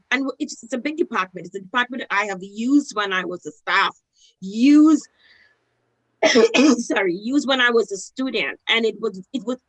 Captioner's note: coughs